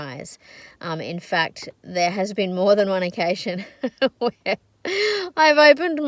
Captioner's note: laughing